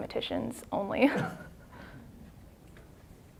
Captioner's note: laughing